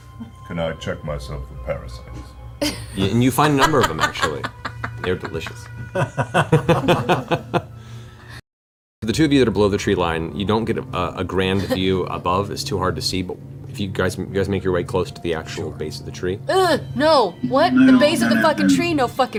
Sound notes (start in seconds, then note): 5.4 all laugh